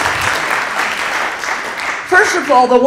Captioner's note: applause